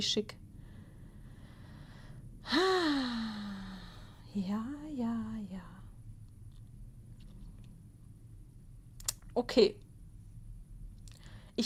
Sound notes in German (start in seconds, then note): 2.4 seufzt; 3.0 japst